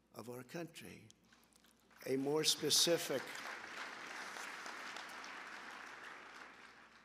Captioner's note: applause